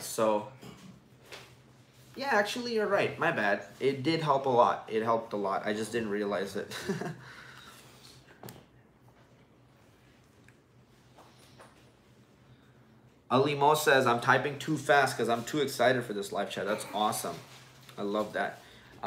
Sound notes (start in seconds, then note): 6.7 chuckles